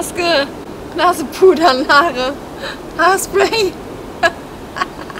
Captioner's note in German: Lachen